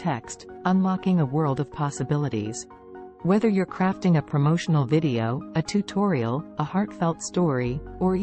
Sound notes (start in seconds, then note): 2.9 voiceover